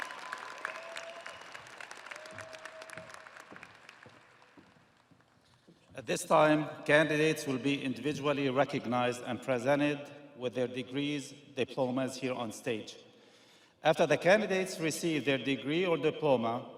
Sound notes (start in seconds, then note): 2.9 audience applauding; 2.9 audience cheering